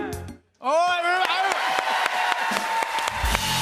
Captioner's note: cheers and applause